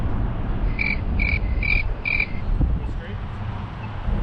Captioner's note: crickets